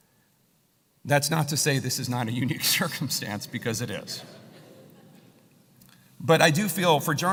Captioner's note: laugh